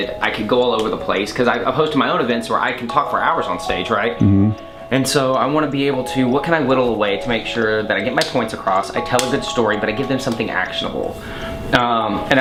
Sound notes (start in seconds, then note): none